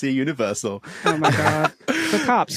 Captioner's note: laughs